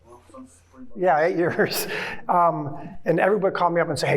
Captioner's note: chuckling